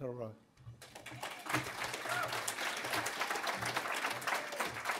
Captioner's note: audience applauds